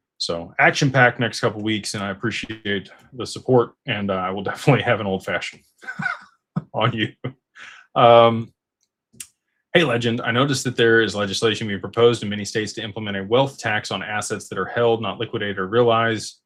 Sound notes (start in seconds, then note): 5.8 laughter